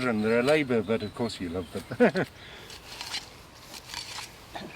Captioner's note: chuckling